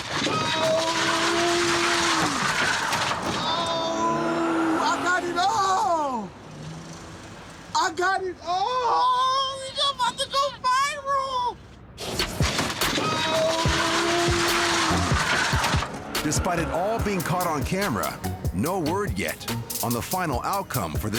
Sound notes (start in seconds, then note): 0.0 scraping, crunching; 5.3 engine revs; 12.0 scraping, crunching